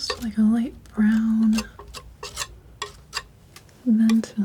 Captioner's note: tapping